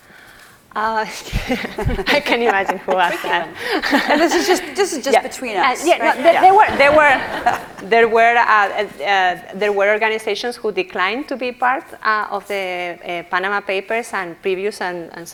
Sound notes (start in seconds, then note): 1.0 all laugh